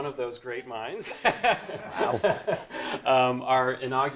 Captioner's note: laughs